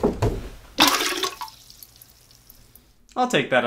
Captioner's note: splash